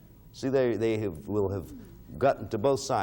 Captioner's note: stammering